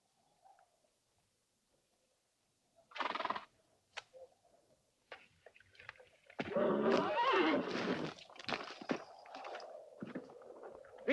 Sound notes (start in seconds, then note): 6.5 horse neighs